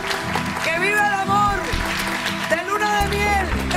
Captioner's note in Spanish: aplausos